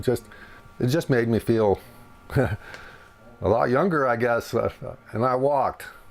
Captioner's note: chuckles